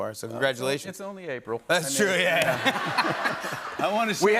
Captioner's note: laughter